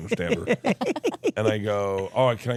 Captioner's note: laugh